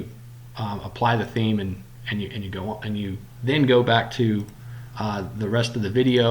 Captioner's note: click